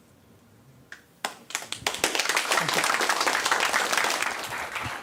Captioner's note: applause